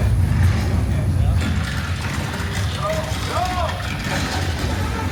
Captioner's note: walls cracking